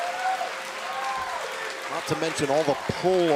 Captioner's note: crowd cheering